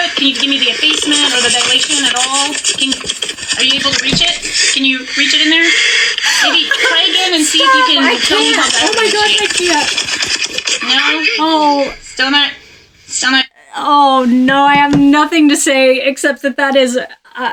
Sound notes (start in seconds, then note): 7.7 laughs